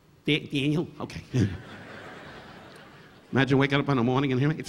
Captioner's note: audience laughing